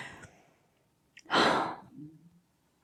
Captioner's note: happy sigh